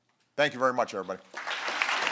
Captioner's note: applause